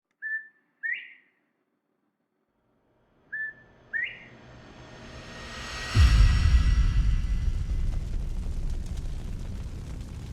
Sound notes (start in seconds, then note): 0.5 quail whistling; 2.7 soft tense music; 6.0 fire crackling